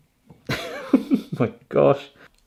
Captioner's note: laughs